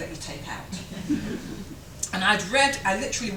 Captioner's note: chuckles